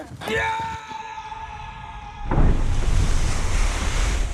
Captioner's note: Benji yelling